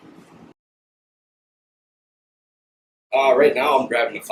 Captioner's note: silence